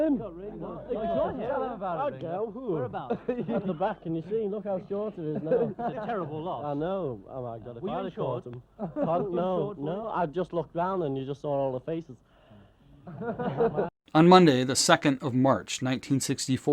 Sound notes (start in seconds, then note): 3.0 group laughing